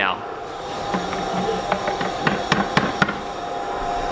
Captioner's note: tapping